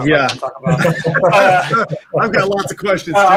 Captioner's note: laughing